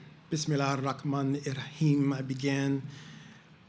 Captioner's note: speaking in foreign language